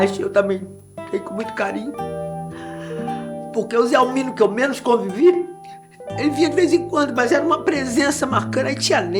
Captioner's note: none